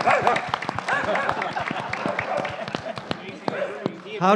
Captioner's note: applause; dog barking